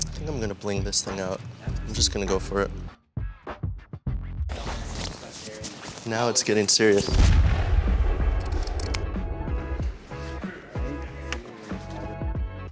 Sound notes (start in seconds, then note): 5.1 speaking faintly; 8.4 shears snapping; 9.8 upbeat music